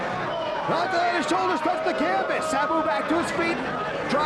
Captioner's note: presenter speaking faintly off mic